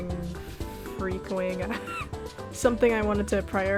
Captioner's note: wheeze